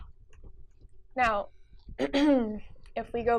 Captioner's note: clears throat